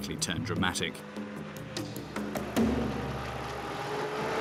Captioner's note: truck throttling